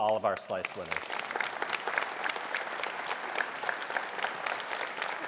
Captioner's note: audience applauding